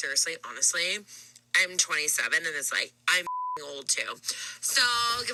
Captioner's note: beep